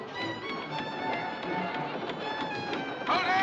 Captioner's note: Cordas rangendo